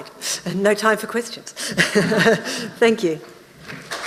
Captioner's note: laughs